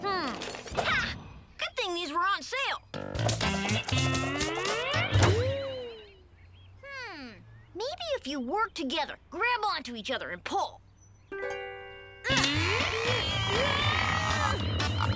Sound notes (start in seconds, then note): 2.0 air whooshing; 2.9 funky music; 10.2 both groaning; 10.2 chaotic music